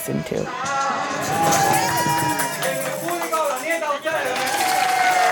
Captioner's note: group cheering